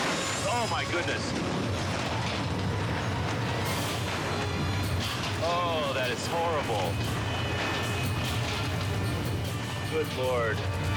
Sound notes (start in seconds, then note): 0.0 helicopter crashing; 1.4 dramatic music; 3.4 helicopter crashing; 7.4 dramatic music continues